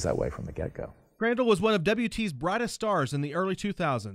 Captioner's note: voiceover